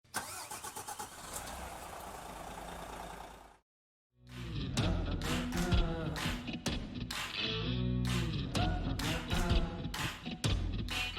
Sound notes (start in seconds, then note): 0.0 engine starting; 4.3 country music